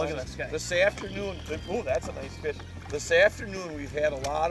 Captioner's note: voiceover